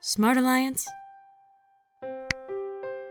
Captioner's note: smack